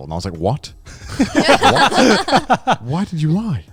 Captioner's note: everyone laughing